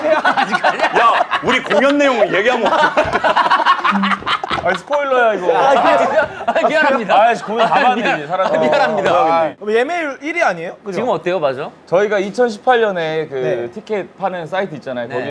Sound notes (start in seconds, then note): 3.1 laughing